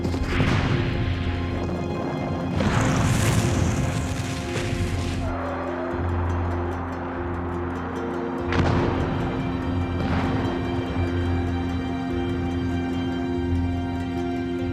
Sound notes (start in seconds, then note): 0.0 explosions; 8.5 explosion